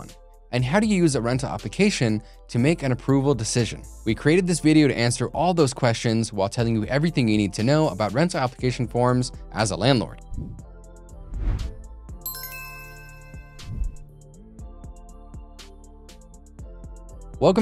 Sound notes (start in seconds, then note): 10.3 upbeat music; 11.2 air whooshing; 12.2 upbeat music; 12.2 bells dinging; 13.4 upbeat music; 13.6 air whooshing